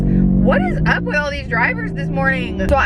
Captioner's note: car engine roars